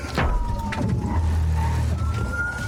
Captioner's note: thuds